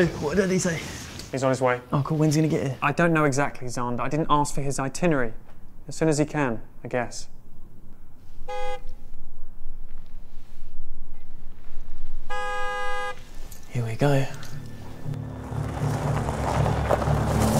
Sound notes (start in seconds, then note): 8.4 car horn honks; 14.3 ominous music